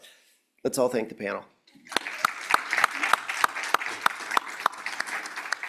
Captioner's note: applause